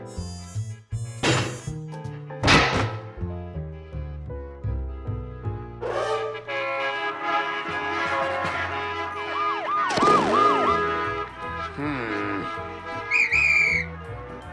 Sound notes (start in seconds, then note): 6.4 horns honk angrily; 7.3 sirens blare; 13.0 whistle blows furiously